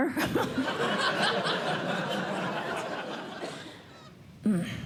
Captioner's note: laughter